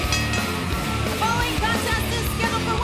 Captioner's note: bell